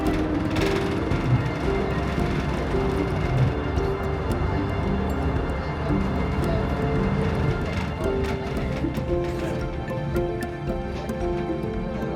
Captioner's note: upbeat music; engine rumbling